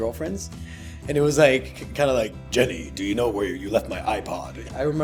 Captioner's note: deep voiced